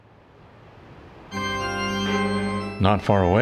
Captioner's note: church bell